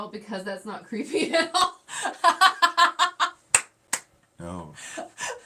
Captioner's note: laughing